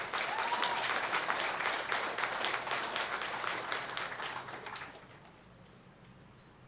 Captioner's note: applause